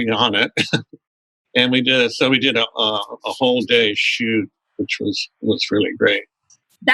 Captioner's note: laughter